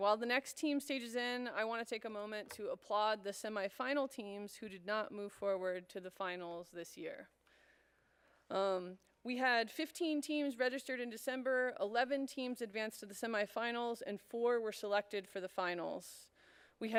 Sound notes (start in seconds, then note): none